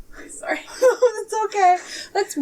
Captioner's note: laugh